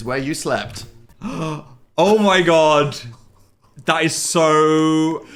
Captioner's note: gasp